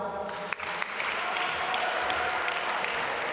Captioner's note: applause